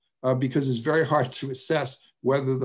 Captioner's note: laughs